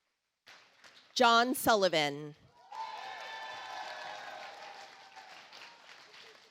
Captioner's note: audience applauds